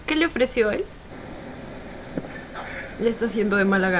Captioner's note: fireworks